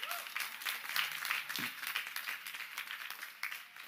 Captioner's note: cheers and applause